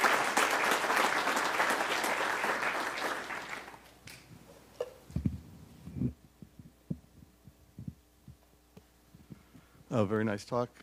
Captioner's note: applause